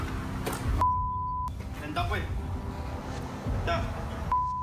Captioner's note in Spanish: Bip